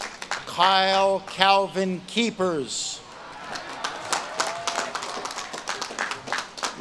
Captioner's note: audience claps and cheers